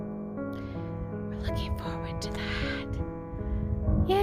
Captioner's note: whispering